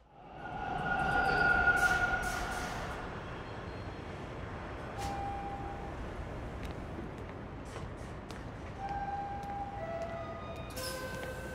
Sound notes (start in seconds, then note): 4.8 subway door chime; 7.6 footsteps